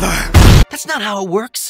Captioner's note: boom